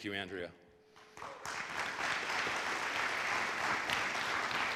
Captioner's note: audience applauds